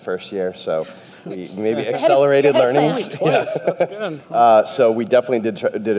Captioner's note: chuckling